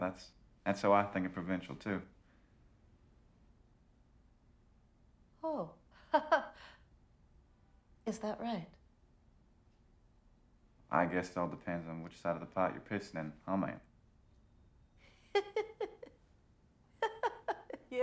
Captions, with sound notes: That's how I think of provincial, too. - Oh. (chuckles) Is that right? - I guess it all depends on which side of the pot you're pissing in, huh, ma'am? (Patricia laughing)